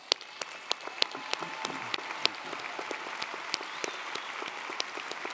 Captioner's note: audience cheering & applauding